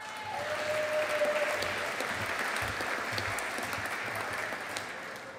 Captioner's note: audience applauding